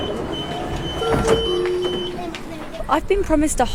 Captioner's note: door beeping